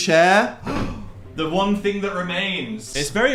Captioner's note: gasp